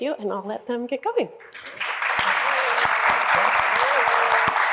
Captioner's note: applause